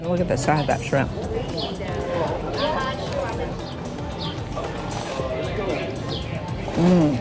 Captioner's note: birds chirping